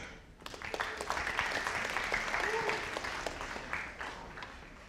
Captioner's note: audience applauding